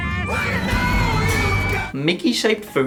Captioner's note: screaming